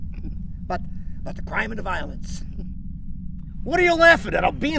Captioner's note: chuckles